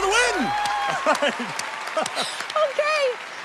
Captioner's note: laughs